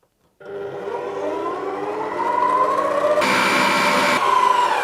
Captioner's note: blender whirring